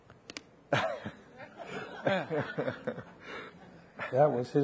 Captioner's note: people laughing